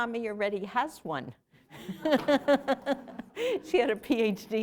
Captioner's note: laughter